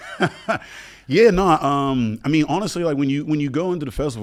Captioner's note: laughs